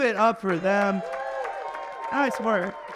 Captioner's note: audience applauding and cheering